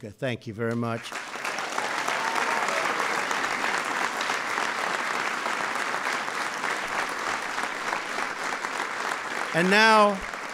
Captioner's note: applause